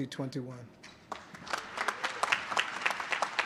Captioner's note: applause